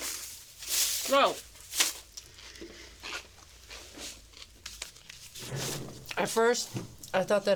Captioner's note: crunching